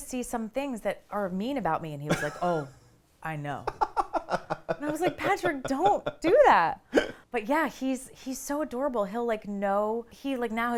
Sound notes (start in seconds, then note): 3.6 laughs